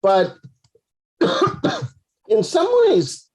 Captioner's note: coughs